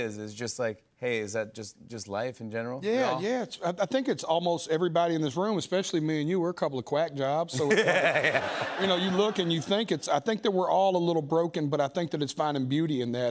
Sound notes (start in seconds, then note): 7.5 laughter